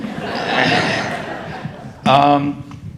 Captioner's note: audience laughing